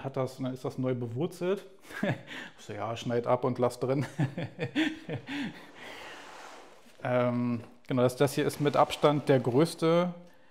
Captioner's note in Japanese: 笑い